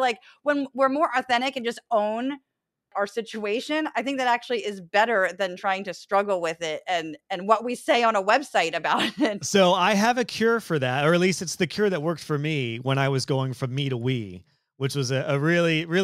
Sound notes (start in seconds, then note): 9.5 laugh